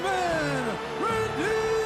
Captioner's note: crowd cheering